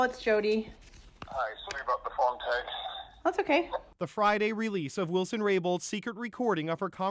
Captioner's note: phone ringing